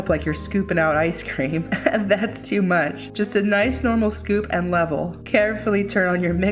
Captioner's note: giggles